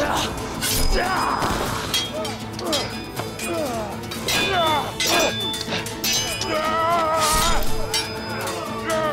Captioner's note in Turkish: Dövüş sesleri